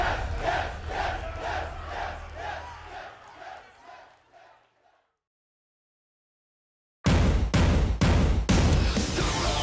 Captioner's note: fans chanting